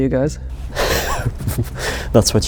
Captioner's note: laughing